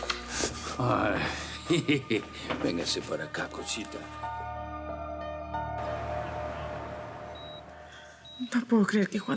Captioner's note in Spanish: Risas